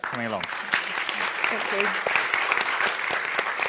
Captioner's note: applause